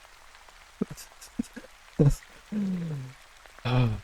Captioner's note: laughter